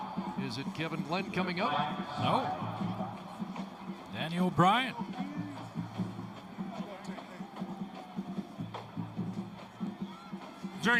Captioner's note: whistle